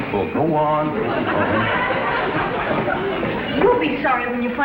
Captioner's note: audience laughs